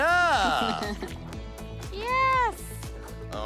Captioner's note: laughs